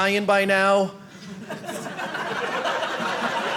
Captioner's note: audience laughing